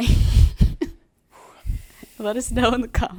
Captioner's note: laughs